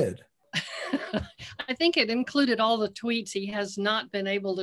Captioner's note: laughing